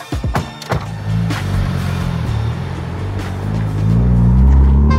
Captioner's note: engine growls